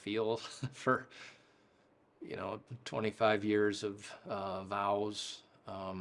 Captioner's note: chuckles softly